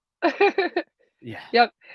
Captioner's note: chuckles